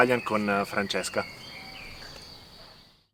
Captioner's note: speaks in foreign language